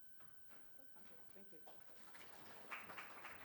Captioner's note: faintly speaking; students applauding